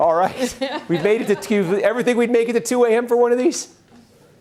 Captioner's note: laughter